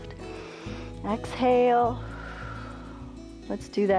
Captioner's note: exhales